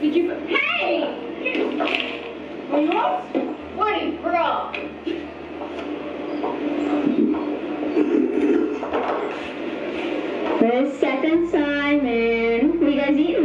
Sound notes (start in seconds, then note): 1.8 curtains rattling; 7.8 object clacking